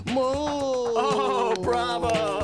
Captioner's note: claps